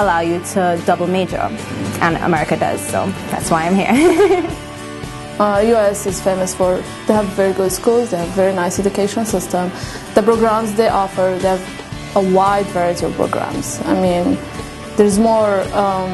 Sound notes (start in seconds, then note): 3.9 laughs